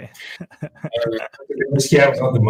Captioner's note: laughs